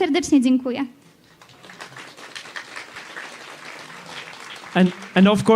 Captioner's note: applause